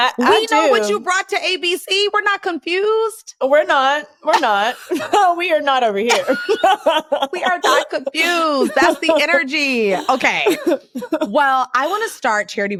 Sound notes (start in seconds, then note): 6.1 laughs